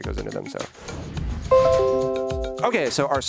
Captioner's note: tone chiming